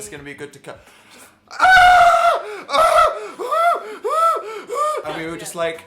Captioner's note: crying